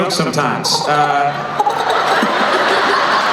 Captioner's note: squirrel chattering